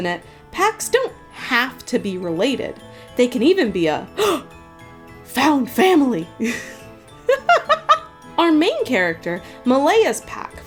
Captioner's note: gasp